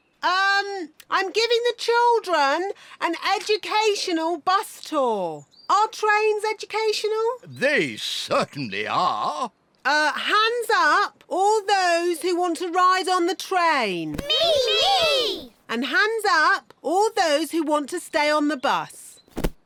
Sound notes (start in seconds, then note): none